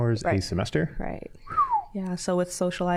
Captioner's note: low whistling